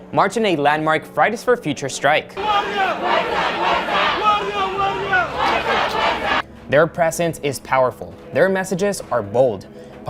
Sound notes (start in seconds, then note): 2.4 crowd chanting